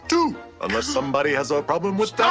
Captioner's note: gasps